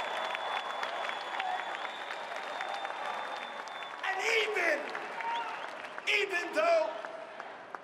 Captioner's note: cheering and applause